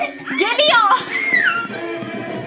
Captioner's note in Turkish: Ciyaklamalar